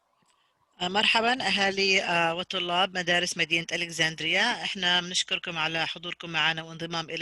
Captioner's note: third interpreter speaks in foreign language